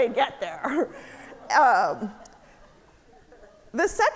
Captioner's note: audience laughing